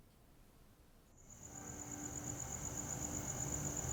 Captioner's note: cicadas chirping